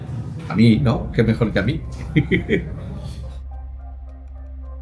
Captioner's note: laughs